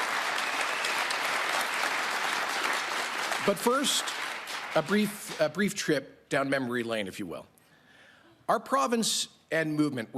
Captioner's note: cheering and Applause